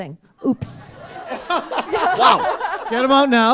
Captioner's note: laughter